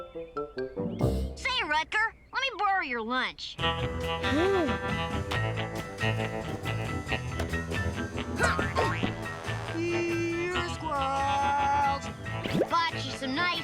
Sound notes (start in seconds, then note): 3.9 guitar music; 8.3 grunting noise